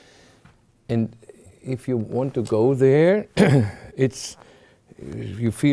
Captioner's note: clears throat